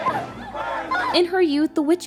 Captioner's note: chanting